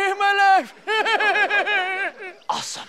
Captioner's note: laughter